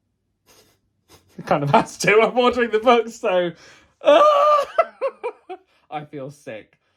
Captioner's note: laughs; laughs